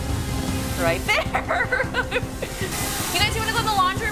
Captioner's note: laughs